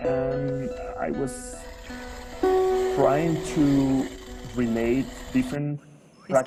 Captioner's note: speaking in foreign language